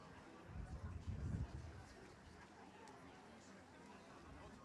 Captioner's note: audience chatters